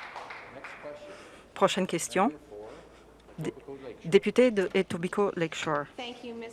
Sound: some Applause

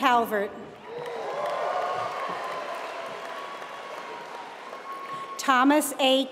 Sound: applause

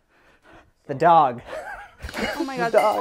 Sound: laughs

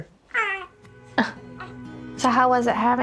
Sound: coos

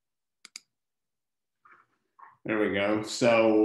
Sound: computer mouse clicking

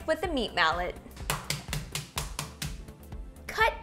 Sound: mallet pounds

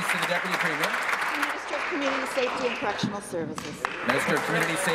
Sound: applause

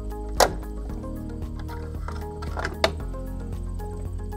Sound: closure snaps; plug clicks

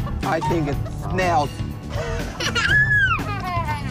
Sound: children giggle

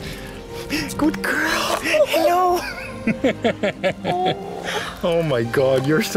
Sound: laughter

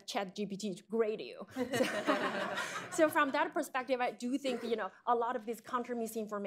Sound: laughter

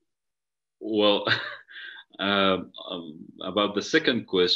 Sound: chuckles

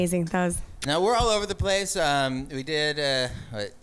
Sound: lips smack

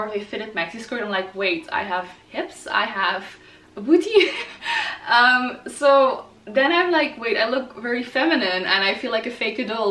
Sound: laughs

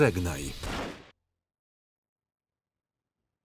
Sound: gun firing

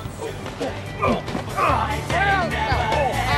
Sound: grunts

